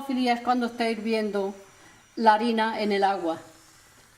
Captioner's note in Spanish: ruido de la harina hirviendo en el agua